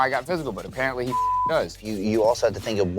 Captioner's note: beep